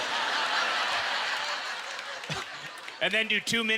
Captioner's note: audience laughter